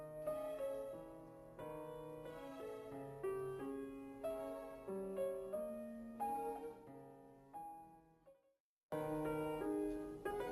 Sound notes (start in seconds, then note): none